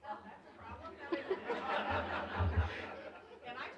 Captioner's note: laughter